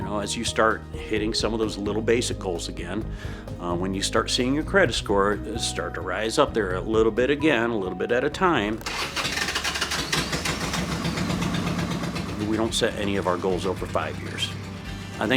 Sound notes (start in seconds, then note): 8.7 motorcycle starting up